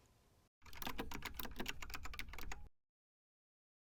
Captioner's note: typing sound